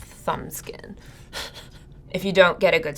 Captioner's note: laughing